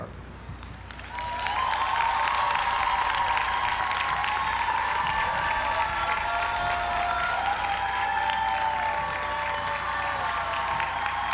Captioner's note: applause